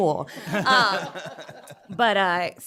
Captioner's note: laughter